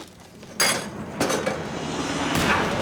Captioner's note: clattering; gunshot